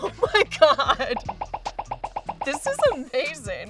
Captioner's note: bubbles popping